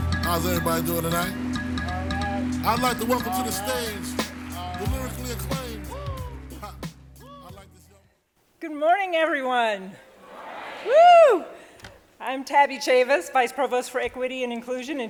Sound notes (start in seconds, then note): 10.1 crowd